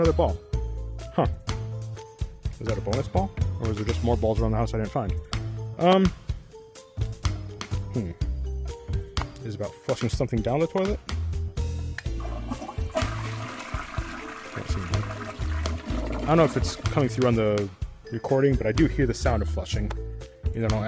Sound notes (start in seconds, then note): 12.2 flush